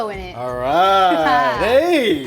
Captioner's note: Megan chuckles